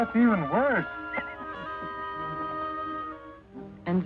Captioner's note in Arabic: الجميع يضحكون